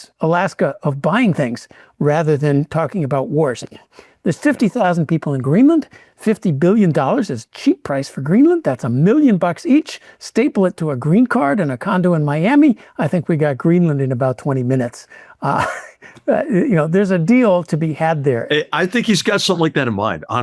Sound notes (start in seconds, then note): 15.5 laughs